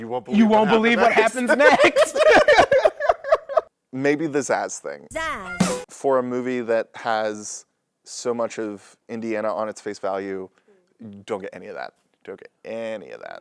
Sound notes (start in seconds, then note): 3.7 laughter